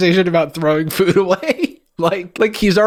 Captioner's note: laughs